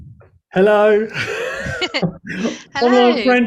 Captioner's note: laughter